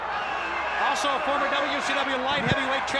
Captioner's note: crowd cheering